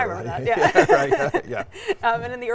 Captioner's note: laughs